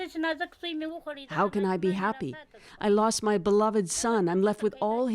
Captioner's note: speaking Foreign Language